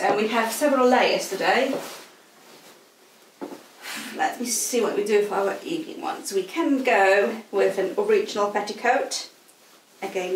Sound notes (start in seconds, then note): 2.0 clothes rustling; 3.8 sighs